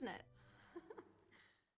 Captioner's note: both chuckle